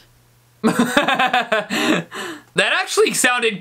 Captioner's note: laughter